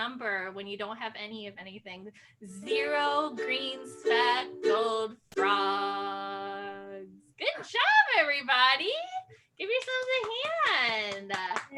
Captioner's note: claps